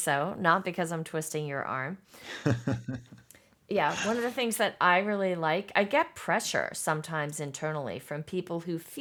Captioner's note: laughs